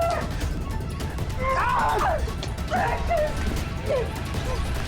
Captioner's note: Mrs. Hill screams